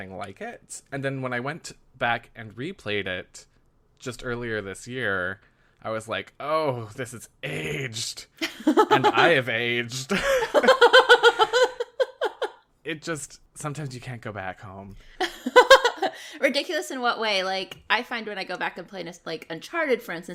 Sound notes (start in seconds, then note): 10.1 laughs; 15.3 laughs